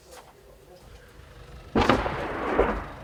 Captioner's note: nearby explosion